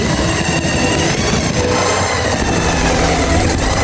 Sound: saw whirring

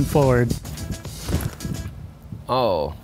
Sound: clothes rustling

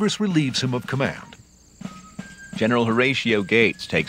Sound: new England accent

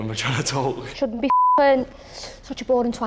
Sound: beeps

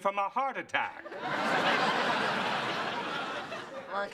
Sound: laughter

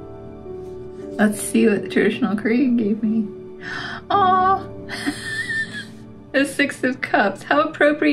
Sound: gasp; laugh

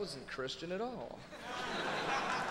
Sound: audience laughing; audience applauding

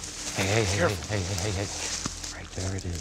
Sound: whispering

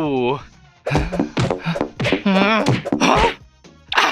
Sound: frustrated noises

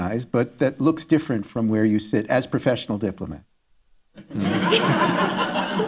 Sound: laughter

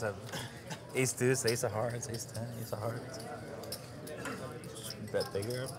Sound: continues talking quietly

